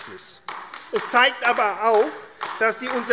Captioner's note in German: Beifall AfD